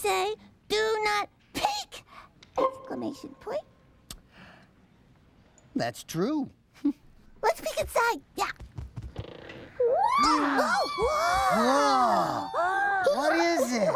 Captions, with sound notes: "DO NOT PEEK"... EXCLAMATION POINT. THAT'S TRUE. LET'S PEEK INSIDE, YEAH. ( box creaking open ) ( creature squeals ) WHOA! WHAT IS IT?